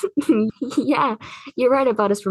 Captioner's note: lucy laughs